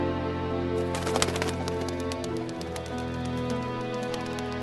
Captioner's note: bird flying